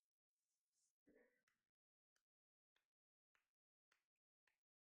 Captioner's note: clapping